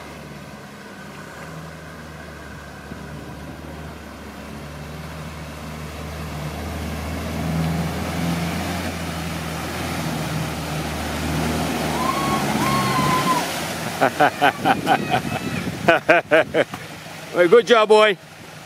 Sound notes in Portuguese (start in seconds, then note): 9.3 risos e gritos